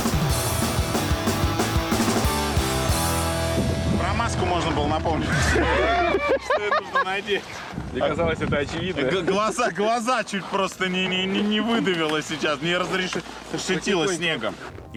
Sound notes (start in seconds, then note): 5.2 everyone laughing